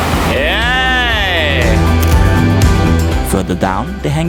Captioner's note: laughs; camera shutter